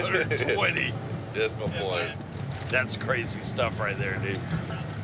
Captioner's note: laughs